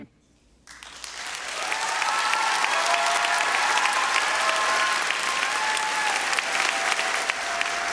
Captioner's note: applause